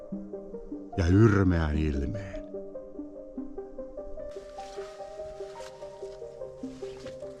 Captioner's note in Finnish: askelten ääniä